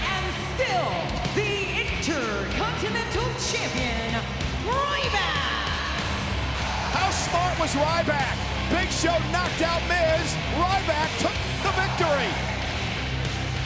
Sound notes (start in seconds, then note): 5.9 crowd cheering